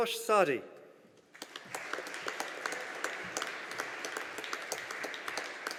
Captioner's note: audience applauding